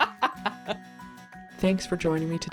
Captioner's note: laughs